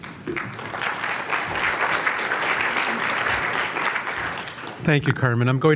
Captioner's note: applause